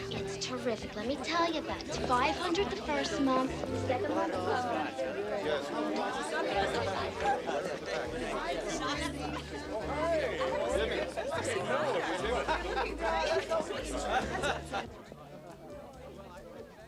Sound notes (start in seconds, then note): 5.0 indistinct chatter; 11.5 indistinct chatter continues